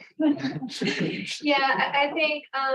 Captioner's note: laughter